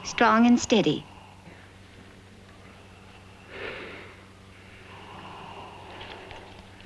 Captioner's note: breathing continues